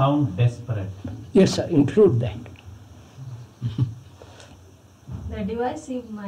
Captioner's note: laughs